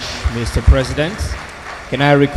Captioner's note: audience applauds